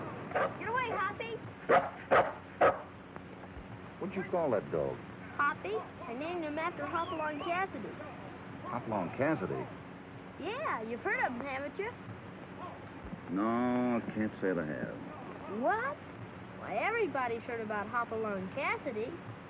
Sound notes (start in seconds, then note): 0.3 dog barking